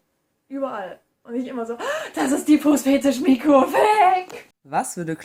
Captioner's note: gasp